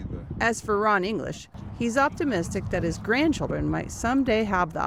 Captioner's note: voice-over